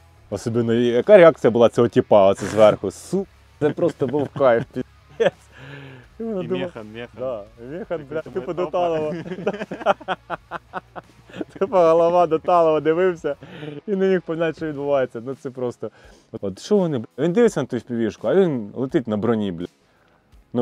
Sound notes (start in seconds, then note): 7.6 laughing